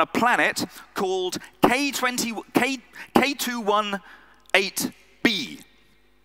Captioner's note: stammers